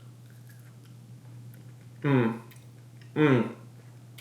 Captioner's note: chews